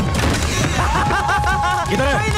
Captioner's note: Laughs